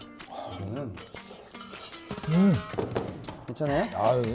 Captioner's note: slurp slurp; slurppppp